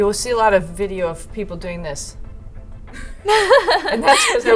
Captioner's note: laughing